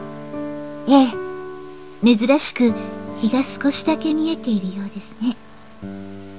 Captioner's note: rain